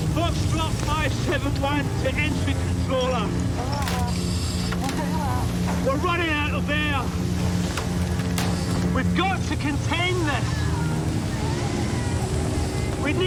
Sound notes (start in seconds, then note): 4.1 woman over radio